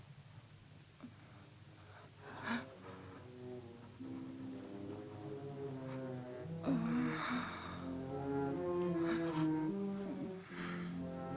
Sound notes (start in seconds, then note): 6.6 Cleo moans; 7.4 tense music